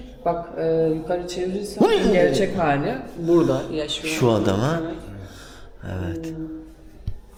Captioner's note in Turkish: homurdanır